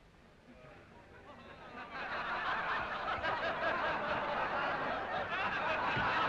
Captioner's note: crowd jeering and laughing